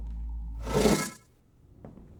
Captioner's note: exterior doors whoosh open